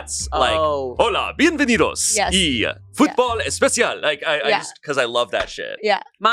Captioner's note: speaks in foreign language